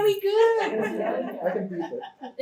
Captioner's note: laughter